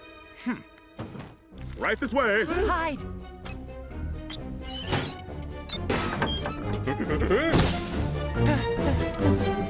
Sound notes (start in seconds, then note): 3.8 beeping; 7.5 panting